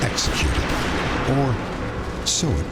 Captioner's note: gunshots